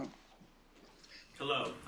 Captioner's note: echoing